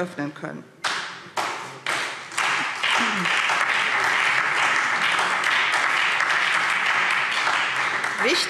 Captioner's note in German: Beifall SPD und Freie Demokraten